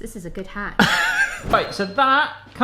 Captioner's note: laughs